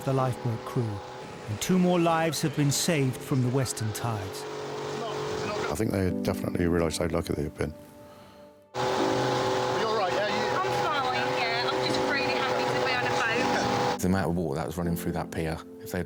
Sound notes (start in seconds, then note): 8.7 engine revving